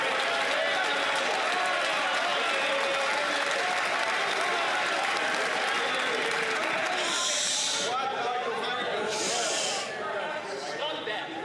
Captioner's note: some Applause